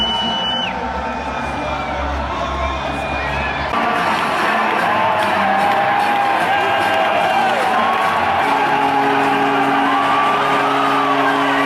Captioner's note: victory sounds